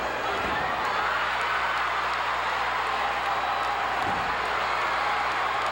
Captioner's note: audience cheering continues